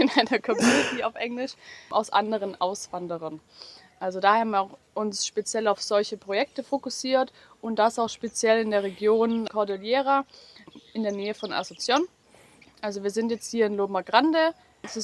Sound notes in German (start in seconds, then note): 0.0 gelächter; 3.6 schnauben